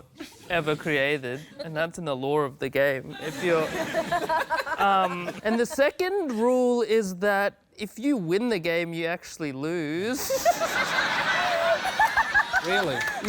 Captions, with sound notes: And that's in the lore of the game if you're... Um, and the second rule is that if you win the game, you actually lose. (LAUGHTER) Really? Yeah.